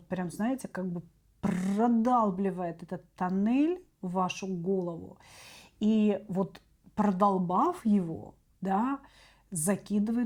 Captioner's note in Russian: откашливается